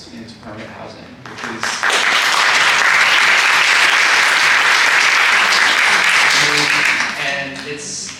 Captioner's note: applause